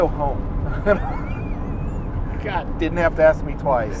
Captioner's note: laughing